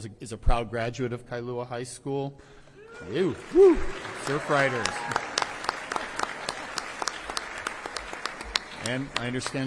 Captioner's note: applause